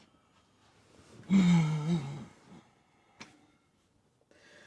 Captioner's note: Betsy sighs